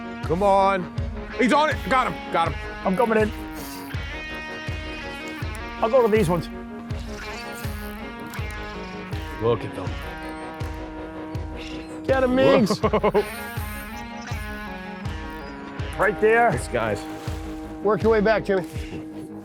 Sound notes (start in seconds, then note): 4.4 slow rock music; 7.8 slow rock music; 10.7 slow rock music; 12.4 laughs